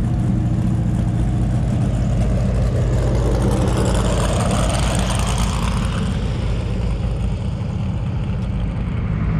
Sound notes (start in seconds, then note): 2.3 engine humming